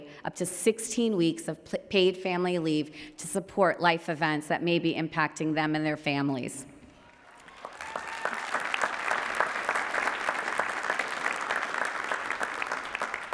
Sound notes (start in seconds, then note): 7.0 applause